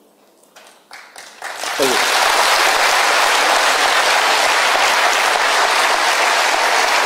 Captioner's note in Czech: potlesk